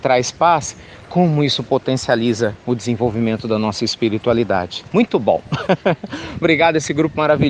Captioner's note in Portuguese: Risos